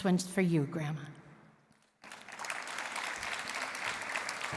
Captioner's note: applause